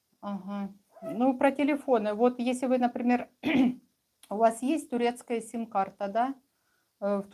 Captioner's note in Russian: откашливается